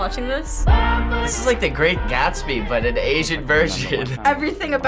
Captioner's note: chuckles